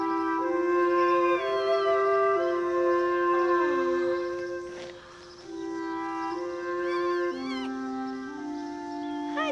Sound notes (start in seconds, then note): 1.9 cat meowing; 4.2 Lilly gasps